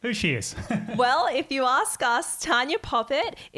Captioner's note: giggling